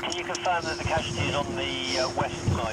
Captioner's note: radio